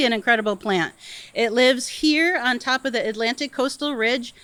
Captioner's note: none